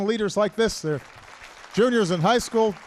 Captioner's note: applause